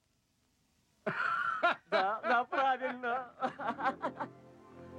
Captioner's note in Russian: смех